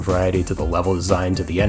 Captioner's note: none